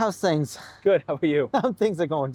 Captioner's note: chuckles